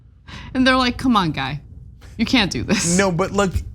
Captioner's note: laugh